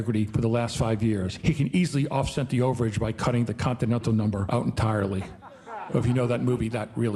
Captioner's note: audience laughing